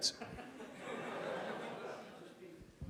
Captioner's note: laughs